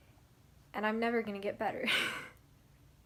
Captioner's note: laughs